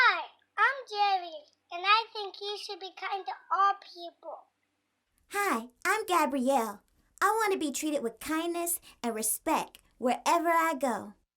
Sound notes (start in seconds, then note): none